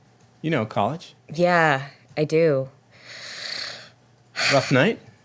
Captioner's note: sighs